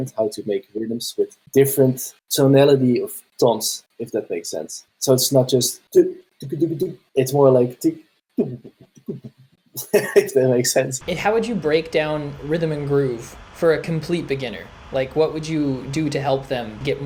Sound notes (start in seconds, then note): 8.4 beatboxing